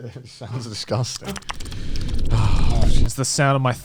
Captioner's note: lips smacking